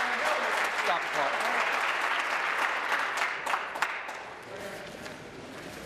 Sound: applause

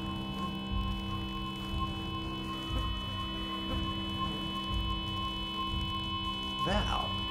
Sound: insect fluttering

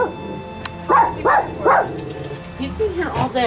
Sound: tongue clicks

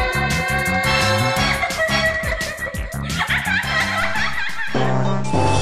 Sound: laughter

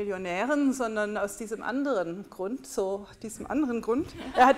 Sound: laughter

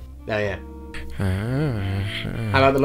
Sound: excited grumblings

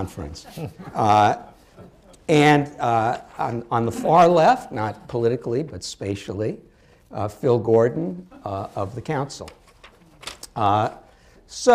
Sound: laughter

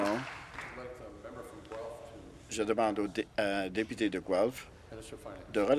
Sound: applause

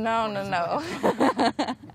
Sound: laughs

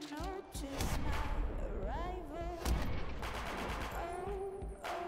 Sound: guns firing

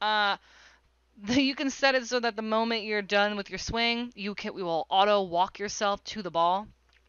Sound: lip smack

